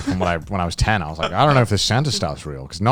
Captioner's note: chuckling